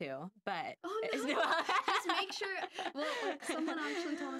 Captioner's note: laughing